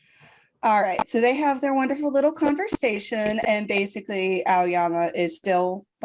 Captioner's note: static here